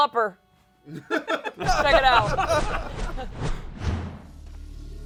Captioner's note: laughter